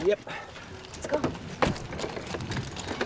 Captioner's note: car door shuts